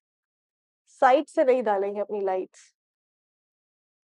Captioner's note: in Urdu